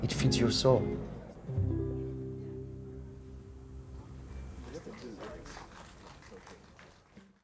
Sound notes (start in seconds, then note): 4.6 audience applauding